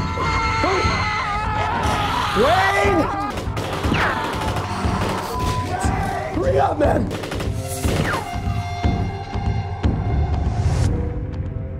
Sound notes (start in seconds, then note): 3.3 gunfire